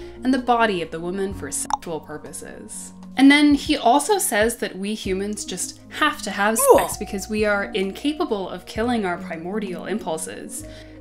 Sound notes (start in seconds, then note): 6.6 grunt